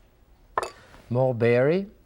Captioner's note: spoon thuds